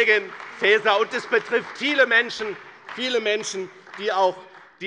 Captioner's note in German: Beifall bei dem BÜNDNIS 90/DIE GRÜNEN und der CDU